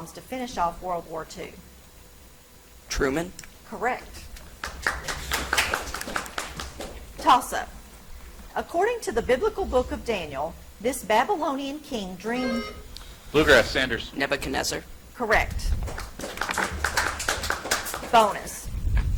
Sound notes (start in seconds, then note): 4.6 audience applauds; 12.3 buzzer chimes; 15.8 audience applauds